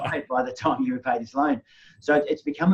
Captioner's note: laughing